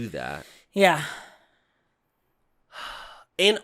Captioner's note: sighs